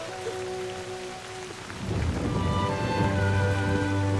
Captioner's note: thunder